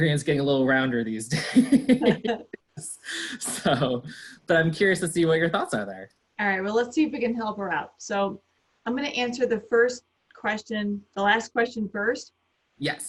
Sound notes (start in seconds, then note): 1.3 laughter